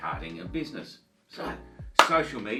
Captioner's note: claps